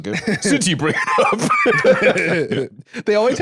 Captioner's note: both laugh